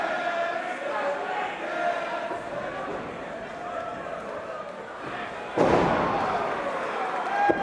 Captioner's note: crowd cheering